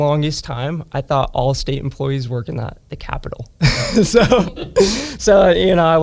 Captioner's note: laughs